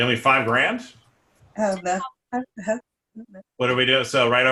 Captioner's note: audio Interference